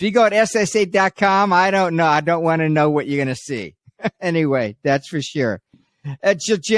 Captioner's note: chuckles